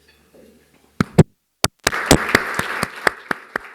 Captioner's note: audience applauds